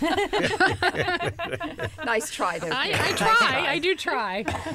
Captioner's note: laughter